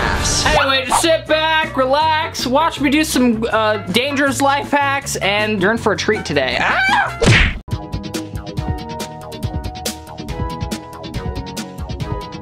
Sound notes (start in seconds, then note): 6.7 yelling; 8.3 upbeat music